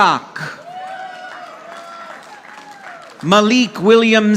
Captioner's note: audience applauding